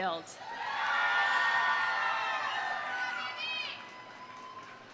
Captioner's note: audience cheering; audience applauding